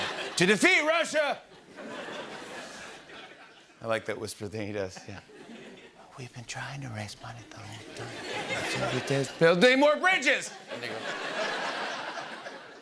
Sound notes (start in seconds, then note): 0.2 normal voice; 5.5 whispering; 9.1 normal voice; 10.4 laughter